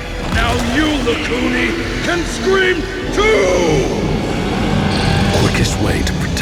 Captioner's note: rugido gutural demoníaco